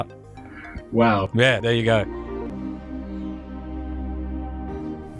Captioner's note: voiceover